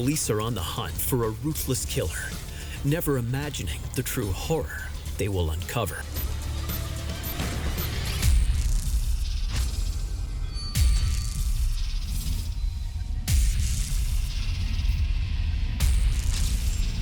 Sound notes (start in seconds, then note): 8.3 gunshot; 8.5 eerie music